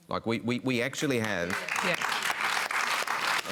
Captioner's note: applause